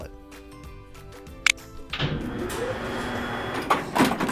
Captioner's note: elevator noises